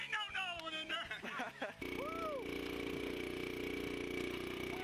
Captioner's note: hooting